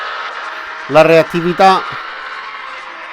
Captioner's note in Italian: Applauso